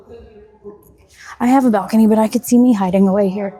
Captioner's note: audience chattering